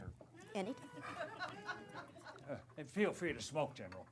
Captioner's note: laughter